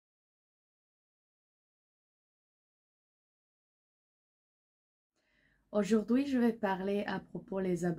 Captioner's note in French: silence